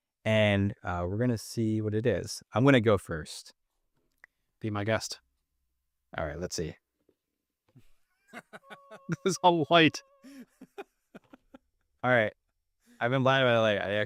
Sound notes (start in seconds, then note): 8.2 laughing